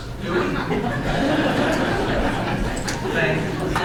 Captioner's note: audience laughs